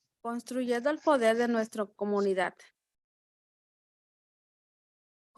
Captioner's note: speaking in Spanish